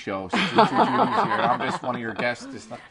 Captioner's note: laughter